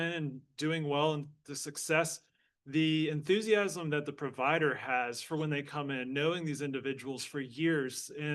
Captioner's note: none